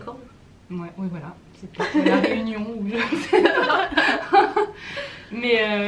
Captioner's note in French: rires